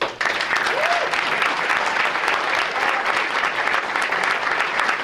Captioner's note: audience applauding